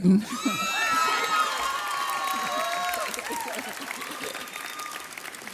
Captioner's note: audience cheers